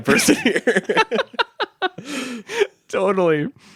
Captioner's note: laughing